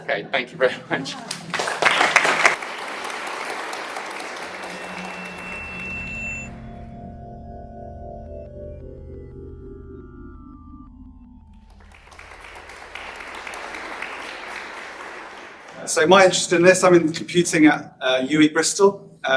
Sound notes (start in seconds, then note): 1.2 applause; 5.1 drone-like music; 11.6 applause